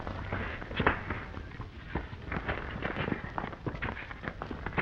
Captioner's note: punches cracking